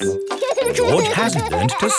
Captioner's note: george laughing